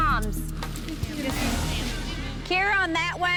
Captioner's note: mumbled acknowledgements from the group three members